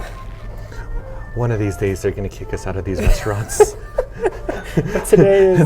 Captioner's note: laughs